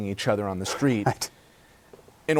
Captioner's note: laughter